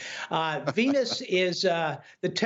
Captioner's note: laughter